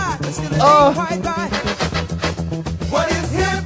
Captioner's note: groans